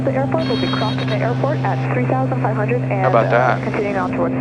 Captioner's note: beeping